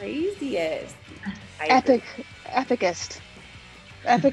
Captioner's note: laugh